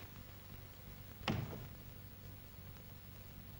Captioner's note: bumps door